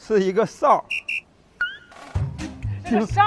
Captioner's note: ultra-abstract whistle